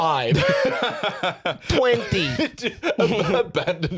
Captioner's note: laughs; laughing